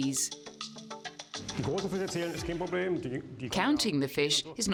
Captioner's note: speaking foreign language